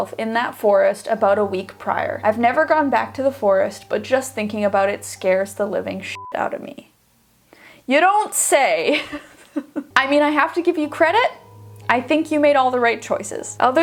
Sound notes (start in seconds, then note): 6.1 beep; 9.3 laughs